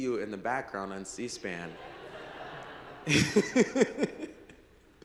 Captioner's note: laughs